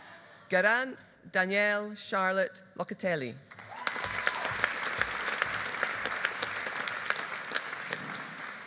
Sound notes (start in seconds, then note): 3.5 audience applauding